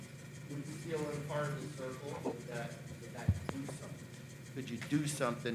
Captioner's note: faintly speaking